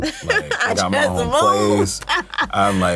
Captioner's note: laughs